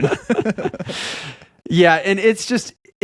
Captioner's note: laughing